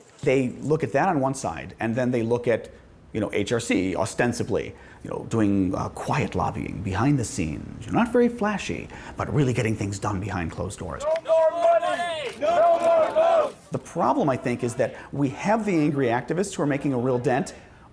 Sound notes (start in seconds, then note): 10.8 protesters chant